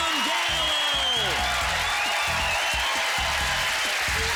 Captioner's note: cheering and applause